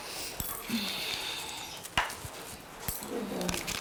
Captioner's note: sighs